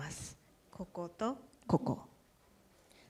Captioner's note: speaking japanese